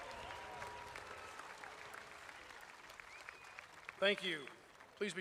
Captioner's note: applause